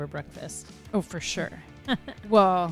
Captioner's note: laugh